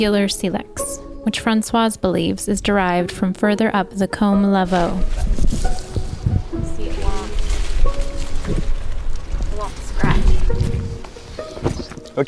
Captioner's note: sounds of walking through vineyard